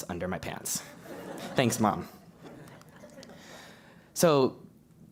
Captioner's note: laugh